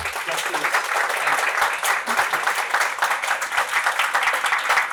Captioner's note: applause